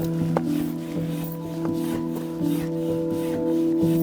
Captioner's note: pump huffing